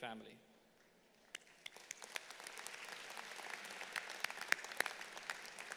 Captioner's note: audience applauding